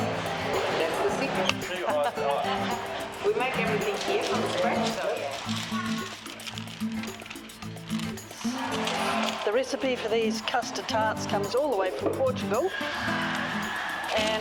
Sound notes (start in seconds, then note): 2.9 laughing; 8.0 bag rustling